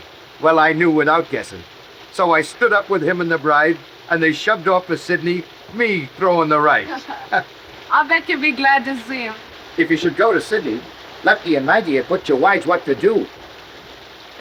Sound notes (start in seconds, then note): 6.7 chuckles